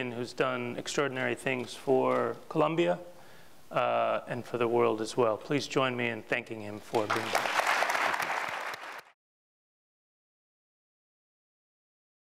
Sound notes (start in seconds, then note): 6.9 audience applauds